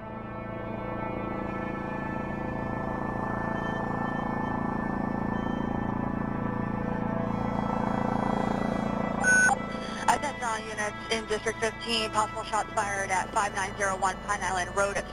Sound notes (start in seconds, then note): 0.1 light suspenseful music; 9.2 beeping